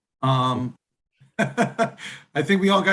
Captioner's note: laughing